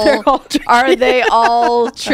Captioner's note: laughter